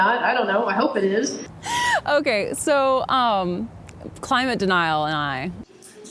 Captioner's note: laughing